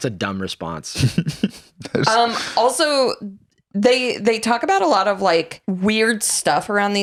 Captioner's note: laughs